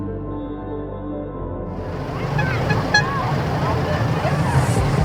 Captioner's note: squeaky boat horn sounds from our starboard side